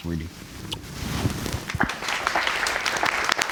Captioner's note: audience applauds